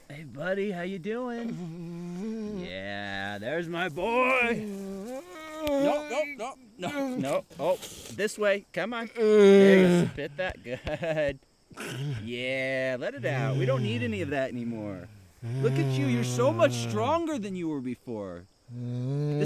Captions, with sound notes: Hey buddy, how ya doing? (Keith groaning) - Yeah, there's my boy! (Keith groaning) - Nope, nope, nope! No, no, oh, this way. Come on. (Keith grunting) - There you go, spit that... Good. Yeah, let it out. We don't need any of that anymore. Look at you! You're so much stronger than you were before.